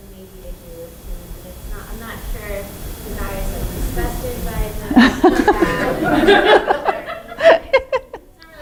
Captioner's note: laughter